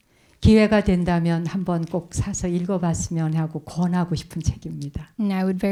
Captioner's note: speaking in Korean